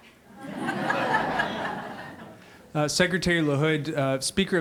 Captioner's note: laughing